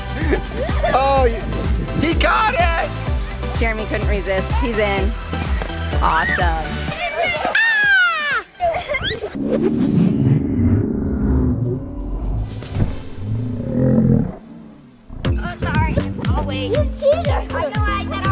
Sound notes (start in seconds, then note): 5.6 upbeat music; 7.0 children shouting; 10.5 slow motion music